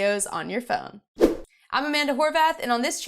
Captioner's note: air whooshing